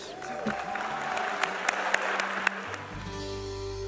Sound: applause

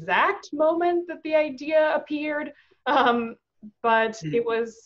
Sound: chuckles

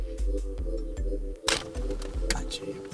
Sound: camera clicks

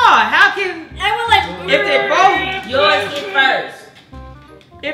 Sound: all shouting

